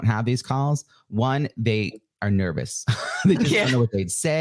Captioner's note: laughs